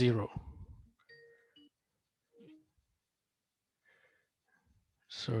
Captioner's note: bell ringing